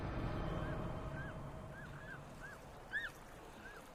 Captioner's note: peaceful music; birds cawing